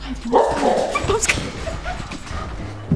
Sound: barking; laughing

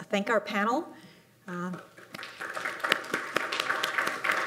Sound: applause

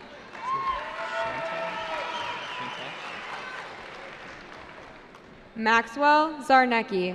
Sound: cheering

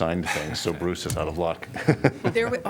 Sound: laughter

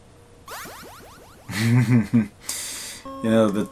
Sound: laughing

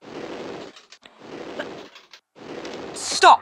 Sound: heavy noises of flame thrower

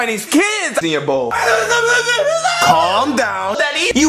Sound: Bowser yells

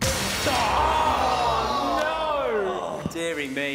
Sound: loud groaning

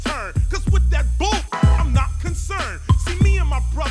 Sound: beep

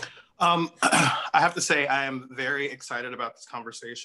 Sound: clears throat

